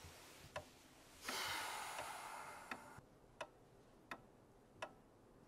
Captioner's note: General Bedfellow sighing